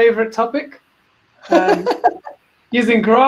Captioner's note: laughs